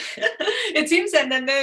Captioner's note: laughs